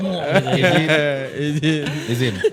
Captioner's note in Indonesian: tertawa